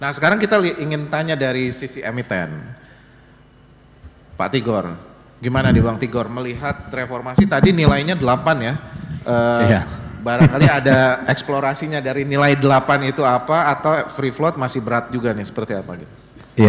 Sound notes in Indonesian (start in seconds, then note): 6.2 berdehem; 11.5 tertawa